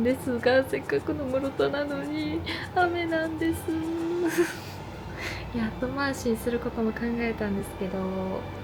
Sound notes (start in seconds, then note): 4.2 crying